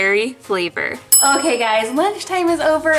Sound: bell dings

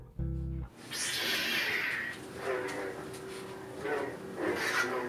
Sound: lightsaber sounds

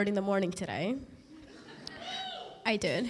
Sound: laughter

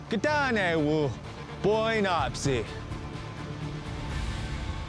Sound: speaking blackfeet

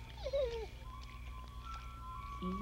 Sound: whimpering

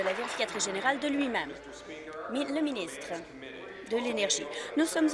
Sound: applause

